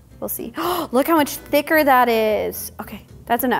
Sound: gasping

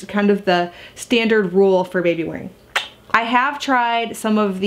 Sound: smooch

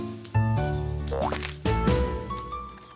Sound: boing!

